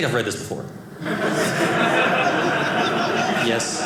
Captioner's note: audience laughing